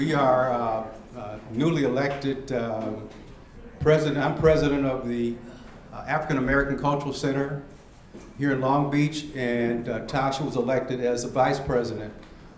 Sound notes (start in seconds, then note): none